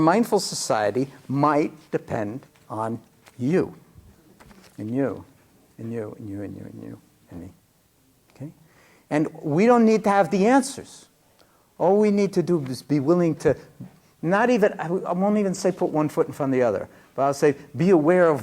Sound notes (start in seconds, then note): none